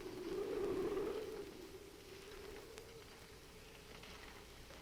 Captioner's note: muffled wind howls